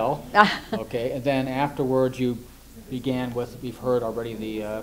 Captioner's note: laughs